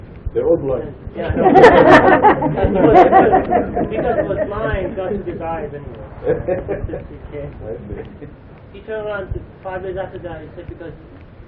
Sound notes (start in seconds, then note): 4.2 Gülüyorlar